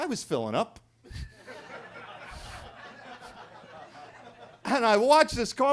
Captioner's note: attendees laughing